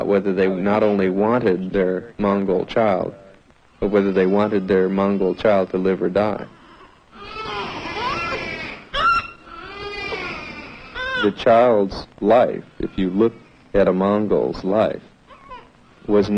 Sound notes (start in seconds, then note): 7.1 babies crying